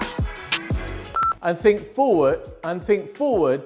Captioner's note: beep